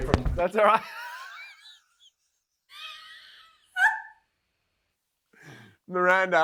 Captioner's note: Luke and Miranda laughing